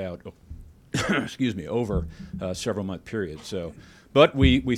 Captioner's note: clears throat